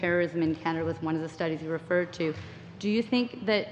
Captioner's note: speaking english